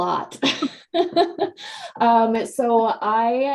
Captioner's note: laughing